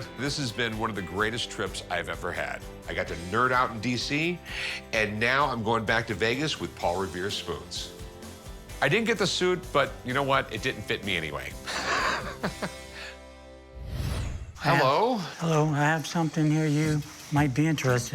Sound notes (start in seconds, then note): 11.7 laughs